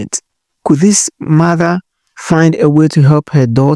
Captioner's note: voiceover